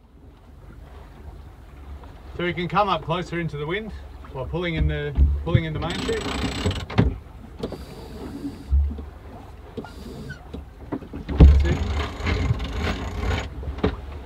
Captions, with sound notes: - So we can come up closer into the wind. We're pulling into-- (grinding) That's it.